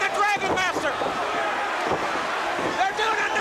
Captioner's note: crowd cheering